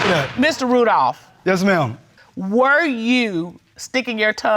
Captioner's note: bangs gavel